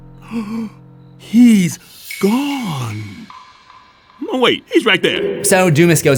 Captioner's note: gasp